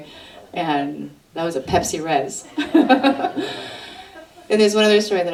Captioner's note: audience laughter